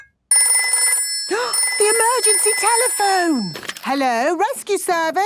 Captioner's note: phone ringing, gasp